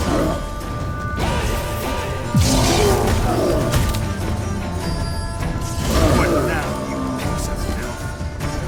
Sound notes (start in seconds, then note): 1.9 roar